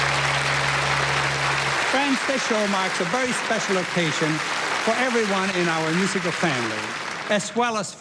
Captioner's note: applause